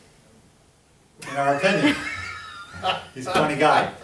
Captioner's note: others laughing